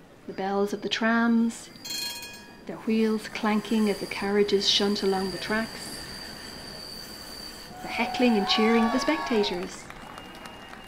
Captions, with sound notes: The bells of the trams – [bell rings] their wheels clanking as the carriages shunt along the tracks. [squealing tram wheels] The heckling and cheering of the spectators. [cheering]